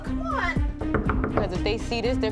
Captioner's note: knocking